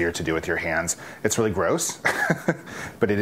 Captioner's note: laughs